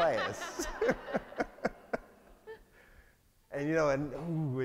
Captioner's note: all laugh